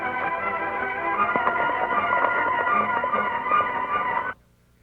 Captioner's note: hooves clopping